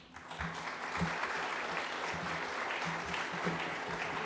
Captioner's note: audience applauding